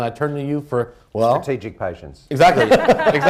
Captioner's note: laughter